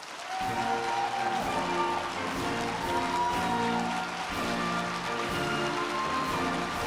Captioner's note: crowd clapping; bright upbeat music